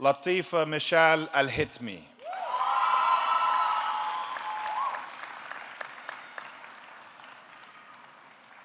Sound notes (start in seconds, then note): 2.2 audience clapping; 2.2 audience cheering